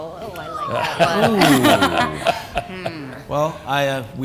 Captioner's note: laughter